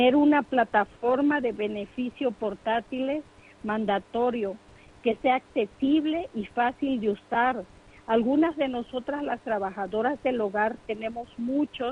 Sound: speaking in foreign language

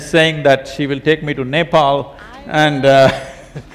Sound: laughs

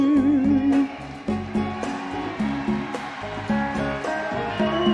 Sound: audience cheer and clap

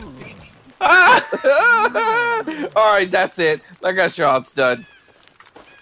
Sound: crying

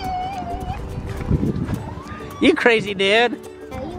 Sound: squealing in glee

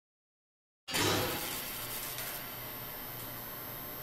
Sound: logo crackling

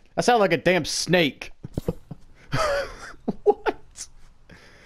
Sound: chuckle

